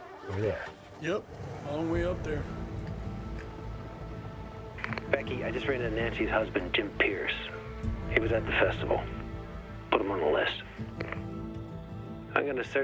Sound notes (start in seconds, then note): 0.2 engine starts; 5.3 radio